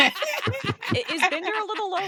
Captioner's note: laughing